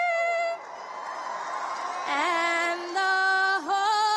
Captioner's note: cheers and applause